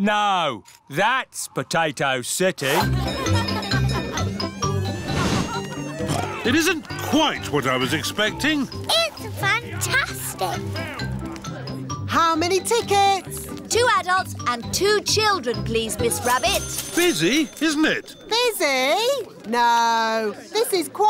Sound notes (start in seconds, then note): 2.7 cheerful jingling; 6.5 oinks